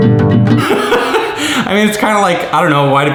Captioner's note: laughs